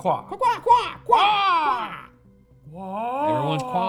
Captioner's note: cawing like birds